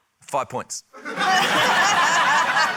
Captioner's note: laughter